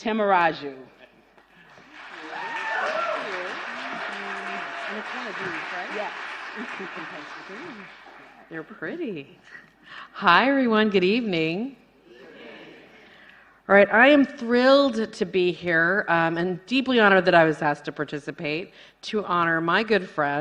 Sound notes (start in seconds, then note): 6.4 applause